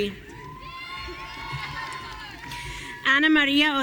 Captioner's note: audience cheering